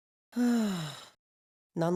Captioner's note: sigh